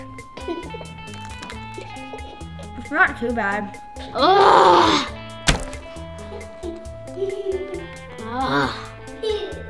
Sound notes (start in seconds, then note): 4.2 groans